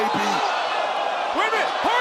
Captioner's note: crowd exclaiming